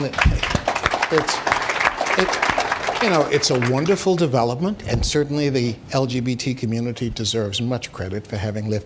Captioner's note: applause